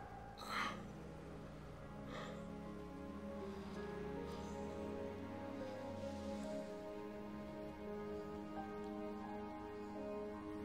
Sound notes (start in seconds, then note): 0.6 Stephen groans; 4.1 gentle somber music; 7.2 helicopter fluttering